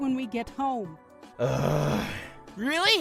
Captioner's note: grumbles